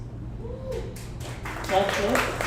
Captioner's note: audience applauds